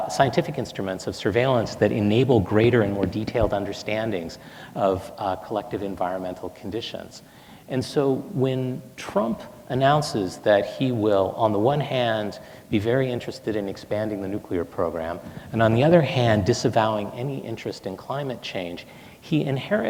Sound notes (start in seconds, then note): none